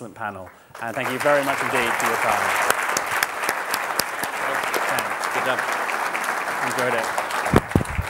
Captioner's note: applause